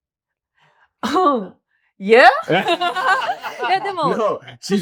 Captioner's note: laughs